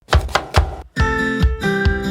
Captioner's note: knife chopping; upbeat music